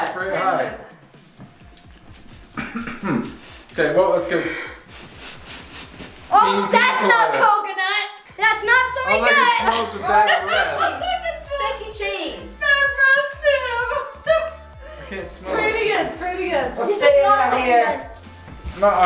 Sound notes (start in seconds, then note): 2.4 coughs